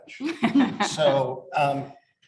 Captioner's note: panelists laugh